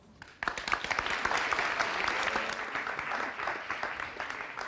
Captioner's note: audience applauds